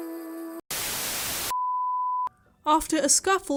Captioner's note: static